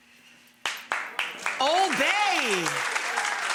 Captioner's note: audience applauding